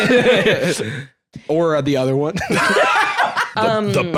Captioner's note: both laugh; laugh